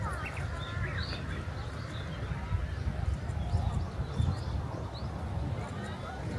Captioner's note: +bird sounds